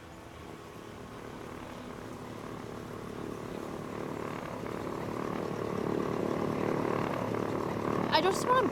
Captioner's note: engine rumbles